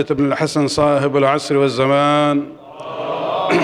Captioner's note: arabic